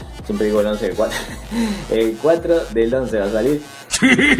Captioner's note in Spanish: risas